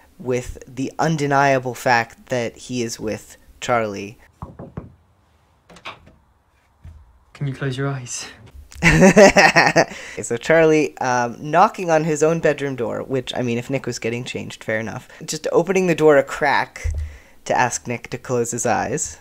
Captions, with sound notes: with the undeniable fact that he is with Charlie. [laughter] So Charlie knocking on his own bedroom door, which, I mean, if Nick was getting changed. Fair enough. Just opening the door a crack to ask Nick to close his eyes.